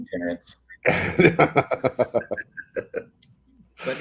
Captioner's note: all laugh